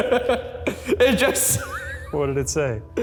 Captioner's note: laughing